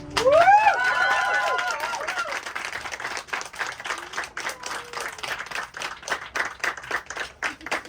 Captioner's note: applause